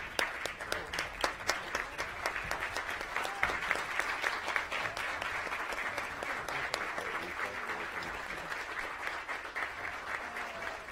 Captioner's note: applause